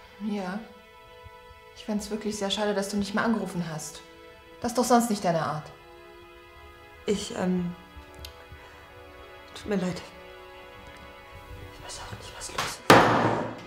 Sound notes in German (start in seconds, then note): 12.2 clattering